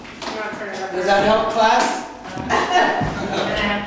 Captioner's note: laughter